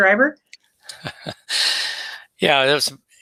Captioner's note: laughing